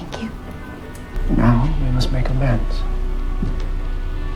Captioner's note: voiceover